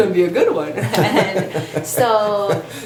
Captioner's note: laughs